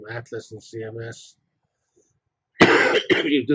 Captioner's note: cough